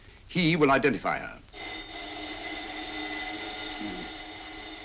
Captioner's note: phone ringing